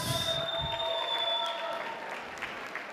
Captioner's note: applause